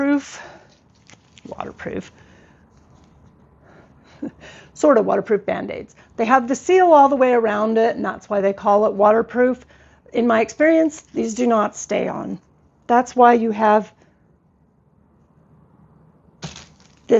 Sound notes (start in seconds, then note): 0.6 scoffs